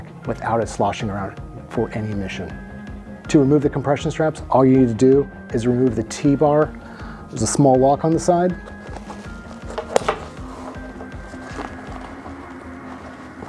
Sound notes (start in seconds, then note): 8.5 bag rustling